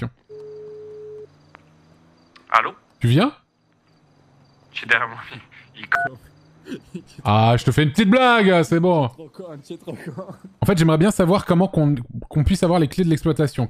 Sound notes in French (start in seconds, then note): 0.3 bip d'appel; 5.8 bip de fin d'appel